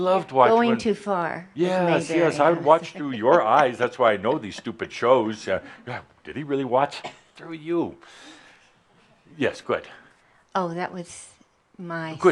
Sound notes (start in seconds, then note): 3.0 she chuckles